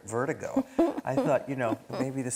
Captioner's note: laughing